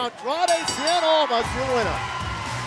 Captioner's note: bell ringing